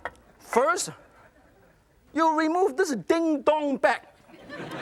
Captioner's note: audience laughs